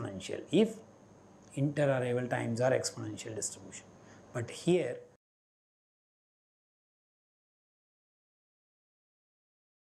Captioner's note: silence 10:23